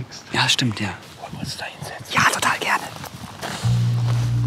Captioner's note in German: flüsternd